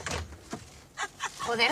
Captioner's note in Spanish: Risas